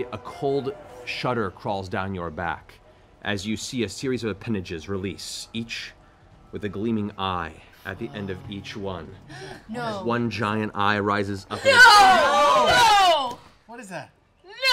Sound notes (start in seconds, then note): 9.2 gasps